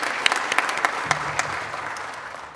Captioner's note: applause